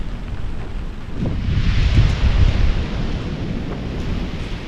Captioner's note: wind & rain